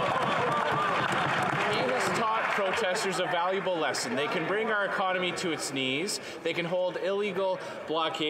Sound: some Applause

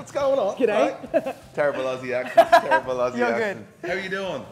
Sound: laugh

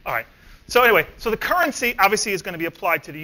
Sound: none

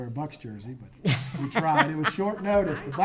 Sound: laughs

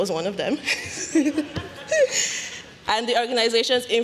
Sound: laughter

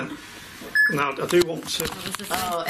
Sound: loud beeping

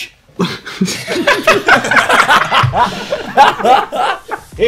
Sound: students laughs

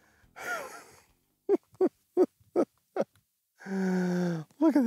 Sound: chuckles

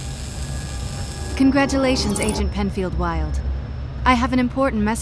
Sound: voiceover

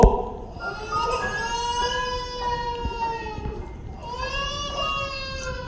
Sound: a baby cries, happy music plays

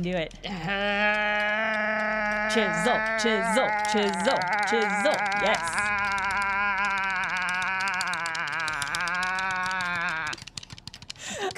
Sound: button tapping rapidly

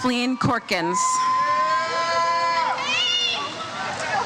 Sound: crowd cheers

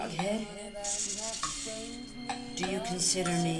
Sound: hiss

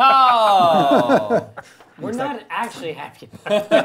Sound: laughing

